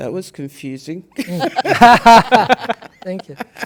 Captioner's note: participants laugh